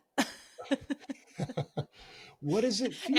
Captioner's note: laughing